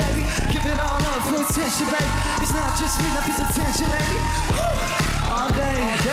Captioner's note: crowd cheering